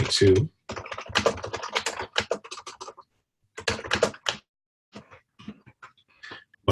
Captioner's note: typing Sounds